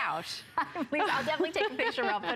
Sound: laughter

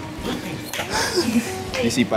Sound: laughing

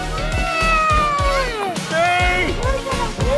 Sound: yelling

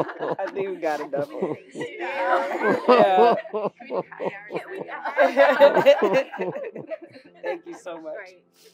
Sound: laugh

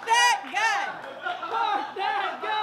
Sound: crowd chanting

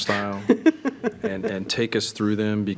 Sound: chuckling

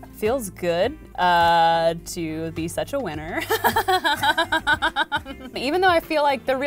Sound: laughs

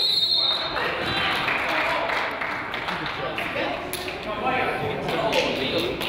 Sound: whistle blows; crowd applauds

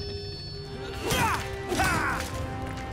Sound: grunting

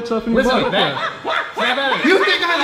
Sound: monkey noises

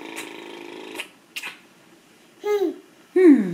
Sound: kisses

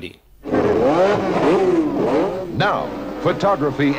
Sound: engine roaring

